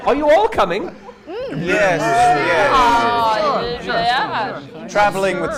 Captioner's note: noises of agreement